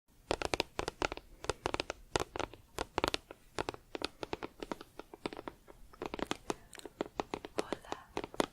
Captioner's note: tapping on plastic